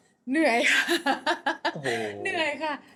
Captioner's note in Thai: เสียงหัวเราะ